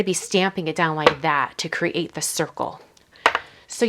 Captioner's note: glass hitting surface